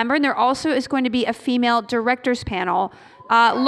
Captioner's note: none